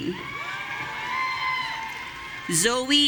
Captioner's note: audience cheering